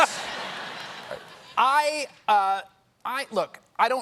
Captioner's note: laughter